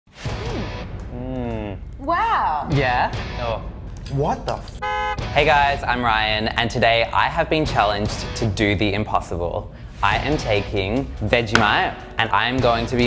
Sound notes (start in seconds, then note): 4.8 car honk